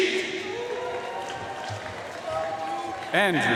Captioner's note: audience cheering and applauding